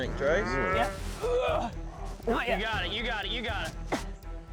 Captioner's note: grunting